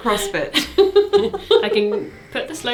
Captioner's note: laughs